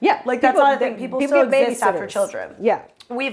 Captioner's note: both chattering